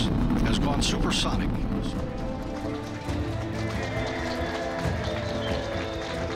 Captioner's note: cheers and applause